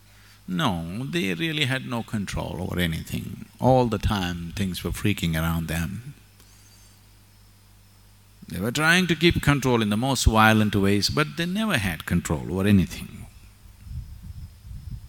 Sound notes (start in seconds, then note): none